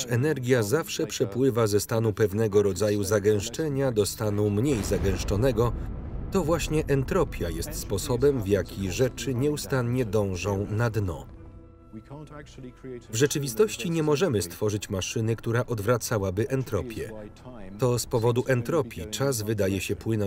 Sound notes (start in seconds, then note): 4.5 explosion booms